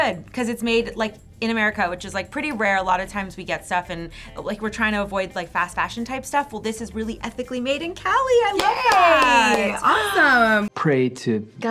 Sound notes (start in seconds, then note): 8.5 clapping